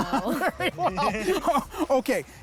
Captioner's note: laughs